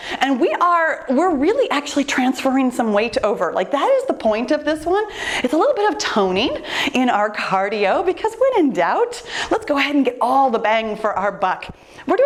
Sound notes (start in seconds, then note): none